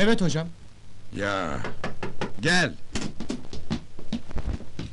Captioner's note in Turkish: kapi vurulur